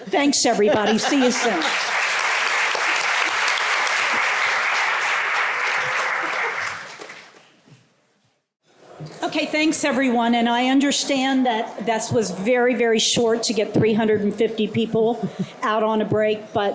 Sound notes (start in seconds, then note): 1.1 applause